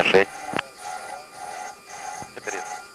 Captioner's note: outer Marker Sound